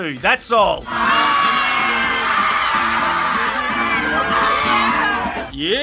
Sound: cheering

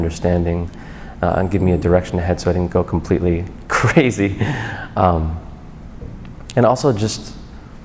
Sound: laughs

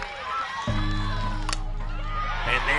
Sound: ball connecting with bat

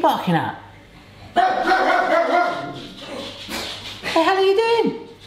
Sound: dog barking

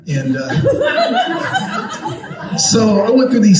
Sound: congregation laughing

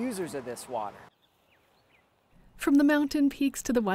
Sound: birds chirping

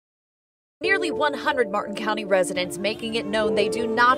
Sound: woman TV anchor voice over

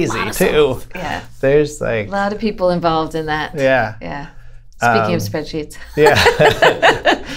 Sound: laughter

